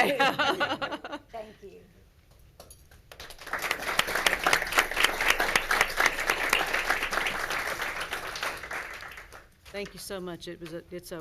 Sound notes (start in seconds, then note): 0.8 laughs; 3.1 audience and board applauds